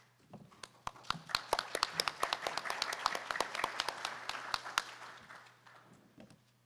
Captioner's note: audience applauding